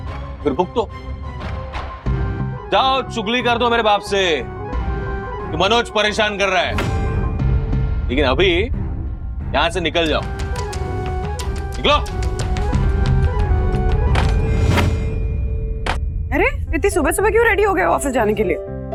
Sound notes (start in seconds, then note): 14.0 door closes